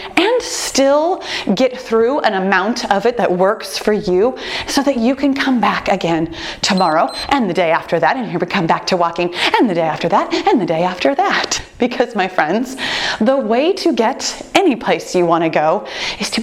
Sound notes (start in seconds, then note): 6.7 timer beeps